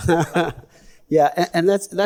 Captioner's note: all chuckle